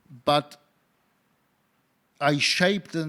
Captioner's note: none